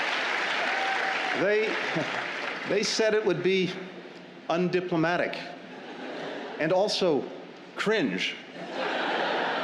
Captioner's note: laughter and applause; laughter